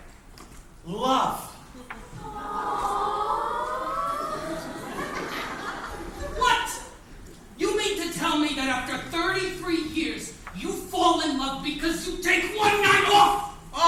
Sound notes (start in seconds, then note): 2.1 collective "aww" from crowd